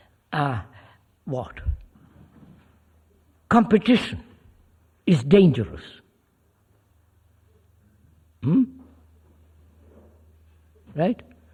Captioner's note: laughs